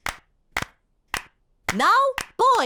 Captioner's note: girls clapping